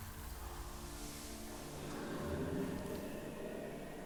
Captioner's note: wind blowing